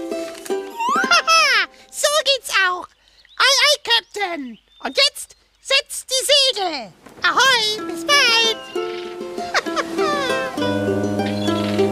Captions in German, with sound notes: (lacht) Haha. So geht's auch! Aye, aye, Kapitän! Und jetzt setzt die Segel! Ahoi! Bis bald! (lacht) Hahaha. * Schiffshorn *